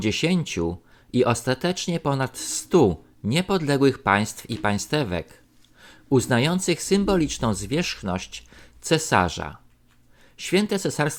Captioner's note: German